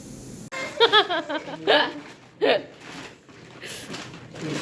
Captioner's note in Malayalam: പൊട്ടിച്ചിരി